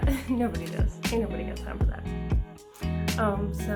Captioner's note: singsong